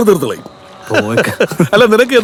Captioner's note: Nawas laughing